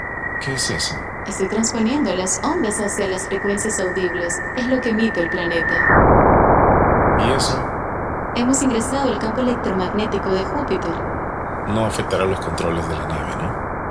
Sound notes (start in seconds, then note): 5.9 sudden loud static sound